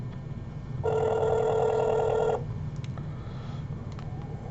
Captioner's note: phone ringing